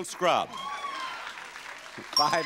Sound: audience applauding

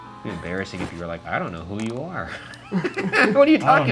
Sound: laughs

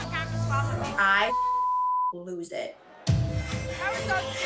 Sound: beep

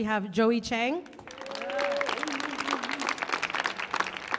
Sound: audience claps

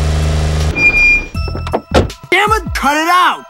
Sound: car Engine; car Breaks; car Door Opens and Closes

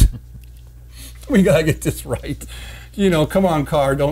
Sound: men chuckle

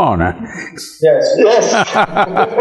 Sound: laughter

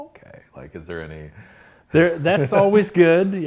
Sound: laughs

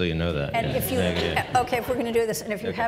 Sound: audience laughs

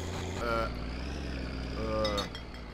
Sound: engine straining; engine slows to a stop

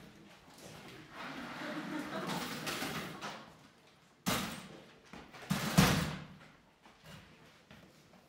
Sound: exaggerated chair noises

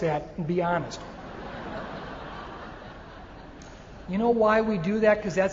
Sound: audience laughing

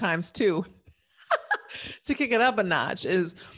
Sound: laughs

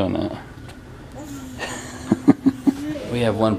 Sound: laughter

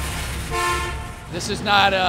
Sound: honking horn

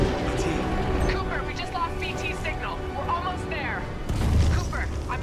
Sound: radio

